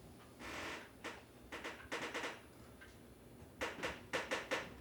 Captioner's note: stairs creaking